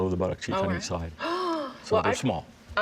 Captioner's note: gasps